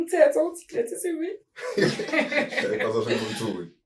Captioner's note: laughing